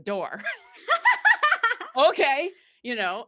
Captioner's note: both laughing